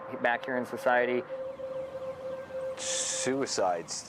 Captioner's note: siren blares